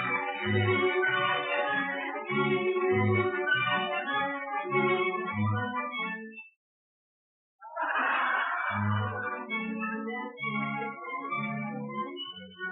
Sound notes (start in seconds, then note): 5.9 laughter; 5.9 orchestra stops playing